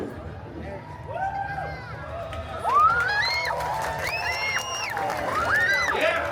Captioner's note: guests cheering and applauding